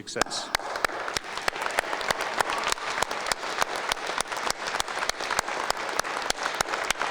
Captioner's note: applause